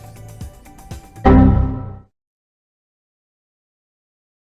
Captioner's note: device banging